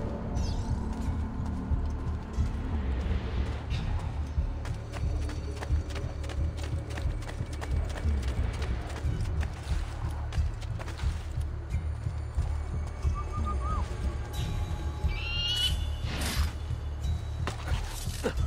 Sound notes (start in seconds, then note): 13.1 Ezio whistles; 15.1 eagle screech; 15.6 hidden blade stabbing sound